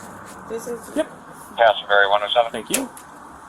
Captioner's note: radio chatter